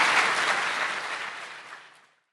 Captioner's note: applause